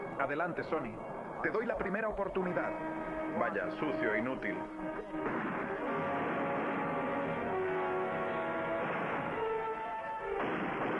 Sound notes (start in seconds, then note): 4.9 gunfire blasting; 7.1 suspenseful music